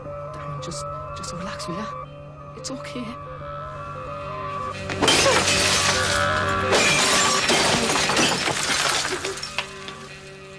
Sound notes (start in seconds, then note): 5.0 glass crashes